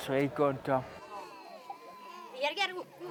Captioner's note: playground voices